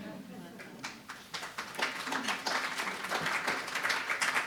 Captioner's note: audience clapping